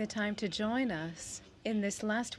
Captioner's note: speaking French